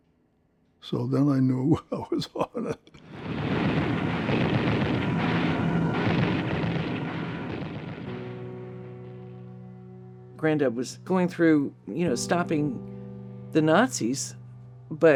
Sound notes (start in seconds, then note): 3.1 artillery firing; 8.1 poignant music